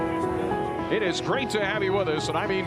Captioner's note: radio call